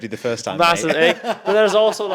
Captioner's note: host laughs